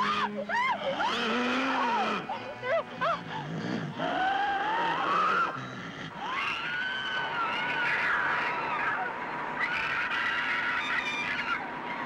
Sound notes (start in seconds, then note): 6.2 screaming